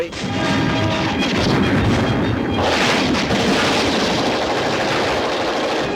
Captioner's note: bombs exploding; guns firing rapidly